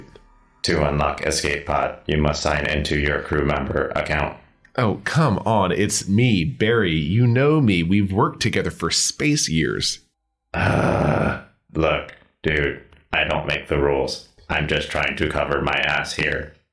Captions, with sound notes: COMPUTER To unlock escape pod, you must sign in to your crewmember account. BARRY Oh, come on. It’s me, Barry. You know me. We’ve worked together for space-years! COMPUTER [Sigh] Look, dude, I don’t make the rules. I’m just trying to cover my ass here.